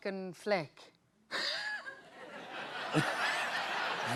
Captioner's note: laughter